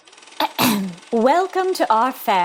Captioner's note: clears throat